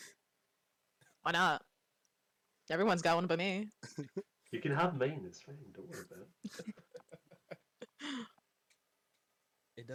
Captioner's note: chuckles